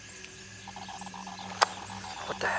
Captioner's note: glitchy Buzzing; device Activating